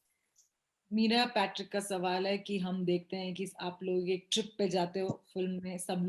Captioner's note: speaks foreign language